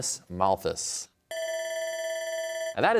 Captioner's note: bell rings